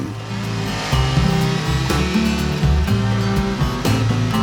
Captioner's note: chainsaw whirring